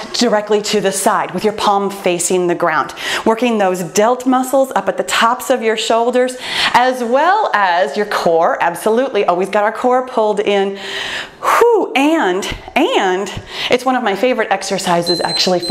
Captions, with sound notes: directly to the side, with your palm facing the ground. Working those delt muscles, up at the tops of your shoulders, as well as your core, absolutely. Always got our core pulled in. (sighs) And it's one of my favorite exercises actually,